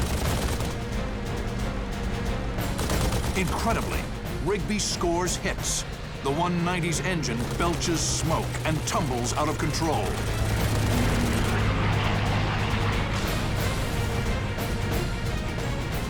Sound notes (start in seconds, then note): 10.0 gunfire